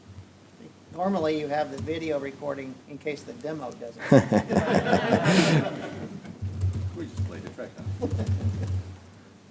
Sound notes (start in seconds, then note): 4.0 audience laughter